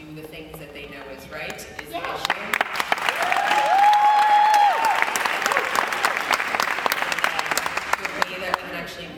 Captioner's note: yes! Applause